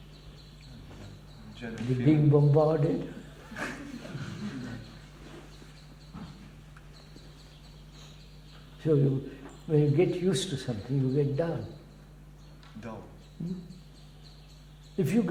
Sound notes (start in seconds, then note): 3.3 laughter